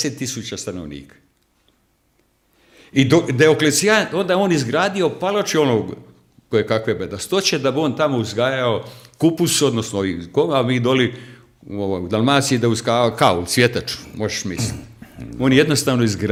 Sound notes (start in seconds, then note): 13.9 coughs